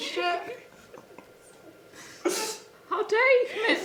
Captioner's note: laughing